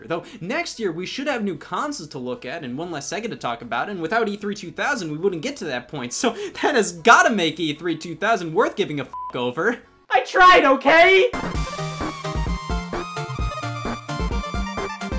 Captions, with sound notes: Though, next year, we should have new consoles to look at and one less Sega to talk about. And without E3 2000 we wouldn't get to that point. So that has gotta make E3 2000 worth giving a (beeps) over. I tried, okay? (upbeat electronic music)